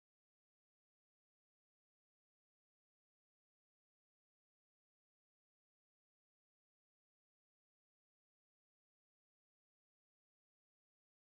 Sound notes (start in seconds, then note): none